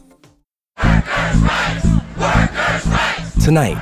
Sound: chanting

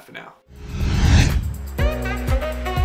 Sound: air whooshing; upbeat music

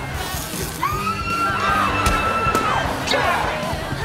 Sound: screaming

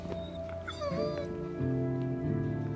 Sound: dancer whimpers

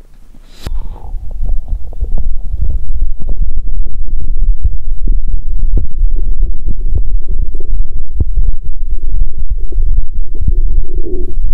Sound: heart sound before exercise

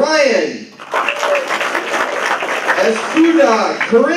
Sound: applause

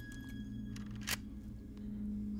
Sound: gun clicks

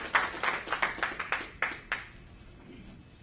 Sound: applause

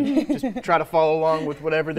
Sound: laughter

